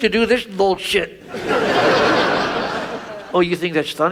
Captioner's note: audience laughs